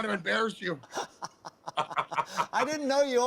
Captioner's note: laughter